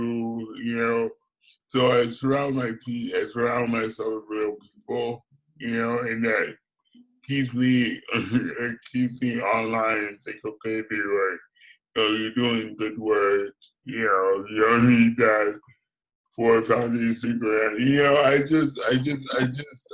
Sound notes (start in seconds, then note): 8.0 laughs